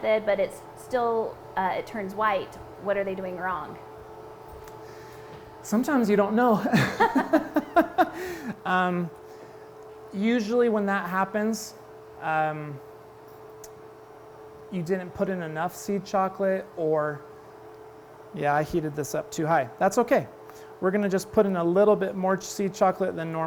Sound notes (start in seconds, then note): 6.6 laughs